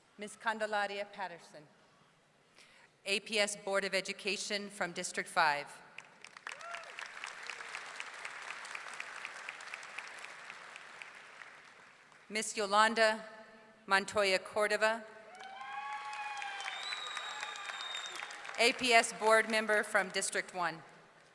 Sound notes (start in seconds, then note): 6.0 audience clapping; 15.3 audience cheering